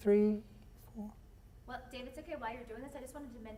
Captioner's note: voiceover